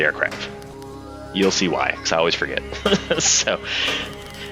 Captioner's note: laughs